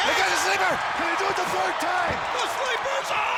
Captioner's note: audience cheers